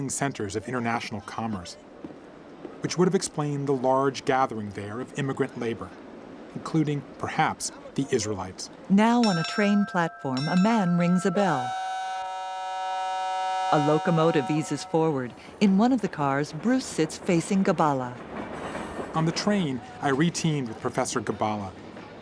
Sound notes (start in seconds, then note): 8.7 train whistle blows